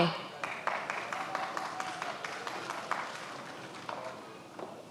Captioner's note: many applauding